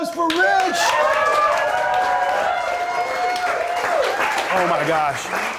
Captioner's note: applause